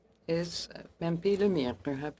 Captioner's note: speaking French